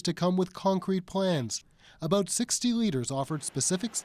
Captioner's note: applause